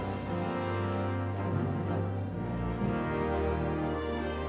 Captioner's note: none